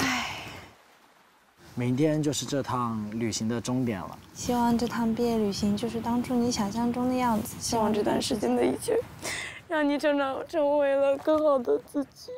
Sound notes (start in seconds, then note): 0.0 sigh